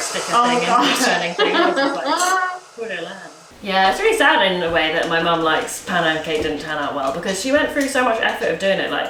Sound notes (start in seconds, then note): 0.7 laughs; 2.2 air whooshing